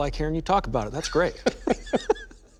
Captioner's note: laughter